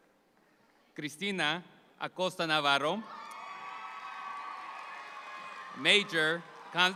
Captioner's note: audience applauds